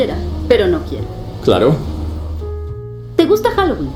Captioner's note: sarcastic